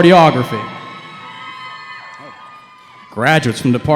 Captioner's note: cheering